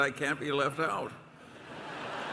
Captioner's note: laughter and applause